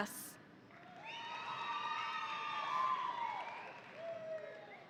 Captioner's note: audience cheering